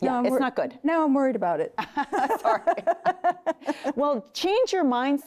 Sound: laughing

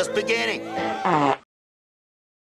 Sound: the final Jim Varney Fart Noise

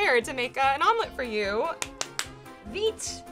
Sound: claps

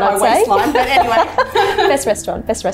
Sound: laughter

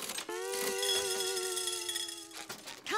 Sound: rattling

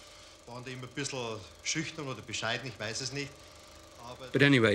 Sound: man speaks foreign language

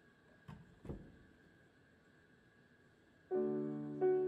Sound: piano bench thumps; gentle music

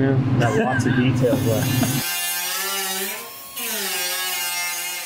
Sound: machine whirs

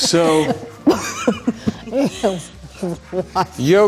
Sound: laughing

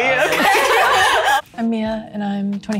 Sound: participants laugh

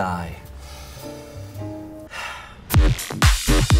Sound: exhales; upbeat music

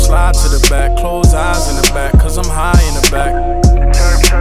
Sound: chirp, chirp

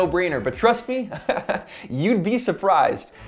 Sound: laughs

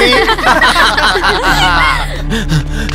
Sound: laughs

